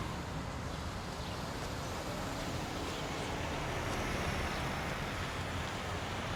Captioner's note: cars passing